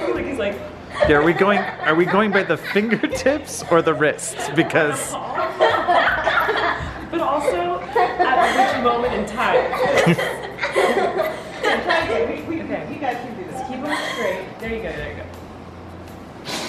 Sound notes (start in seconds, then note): 5.8 laughing; 9.8 chuckles; 10.1 kids laughing